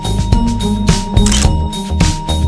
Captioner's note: photo Click